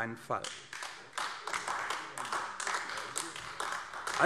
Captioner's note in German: Beifall AfD